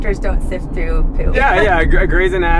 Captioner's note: laughing